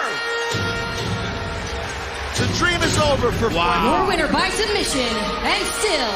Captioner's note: bell